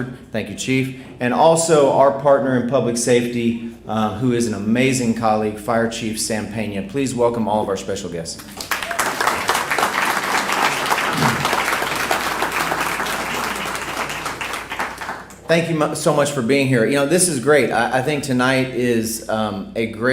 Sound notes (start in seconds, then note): 8.4 applause